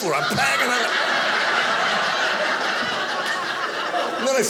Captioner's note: audience laughing